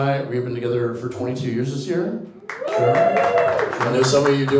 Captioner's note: audience cheers